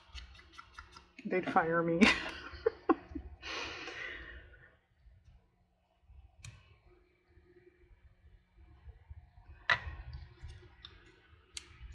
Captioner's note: laughs